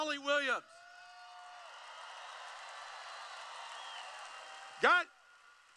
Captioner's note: applause